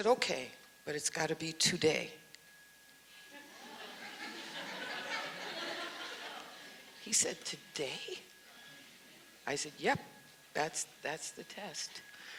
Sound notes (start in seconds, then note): 3.3 audience laughs